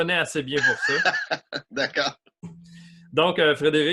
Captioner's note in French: rires